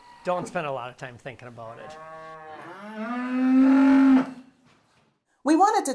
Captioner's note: cows mooing